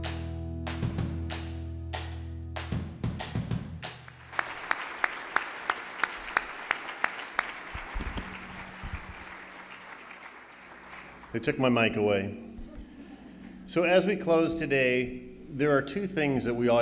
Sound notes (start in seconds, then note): 0.2 upbeat music; 3.9 applauding